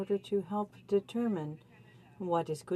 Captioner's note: speaking French